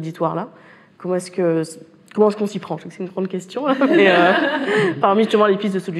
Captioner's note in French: rires